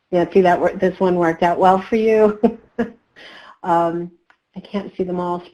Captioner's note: laughs